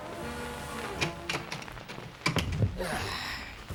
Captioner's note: door opens, closes